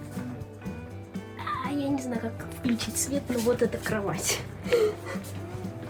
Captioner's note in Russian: смех